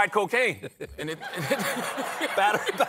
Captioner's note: laughter